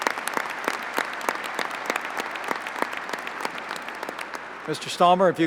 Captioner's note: applause